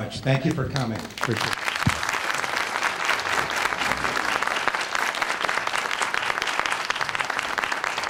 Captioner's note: applause